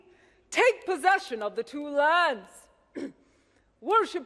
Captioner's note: clears throat